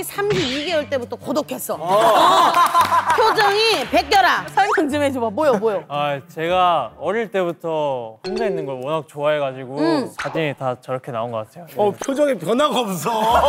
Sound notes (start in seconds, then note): 1.9 laughing